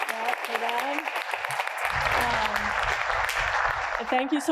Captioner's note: applause